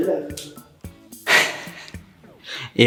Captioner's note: chuckle